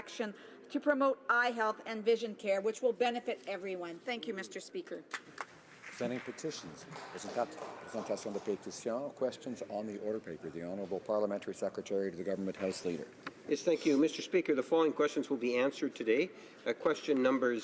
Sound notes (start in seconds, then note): 12.8 speaking French